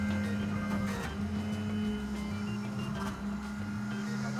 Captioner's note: crane whirring